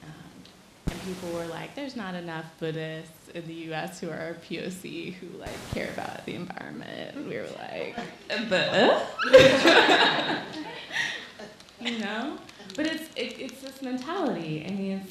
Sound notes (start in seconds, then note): 7.2 skeptical vocalizing; 11.2 laughing